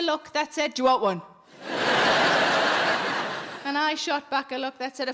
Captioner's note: audience laughing